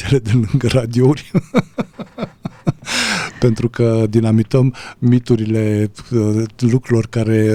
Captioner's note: laughter